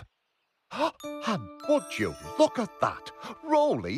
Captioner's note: gasp